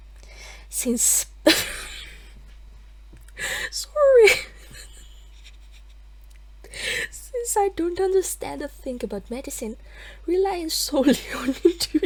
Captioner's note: laughter